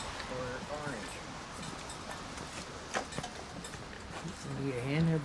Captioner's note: oxygen tank clanging